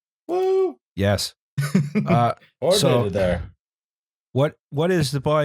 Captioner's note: laughs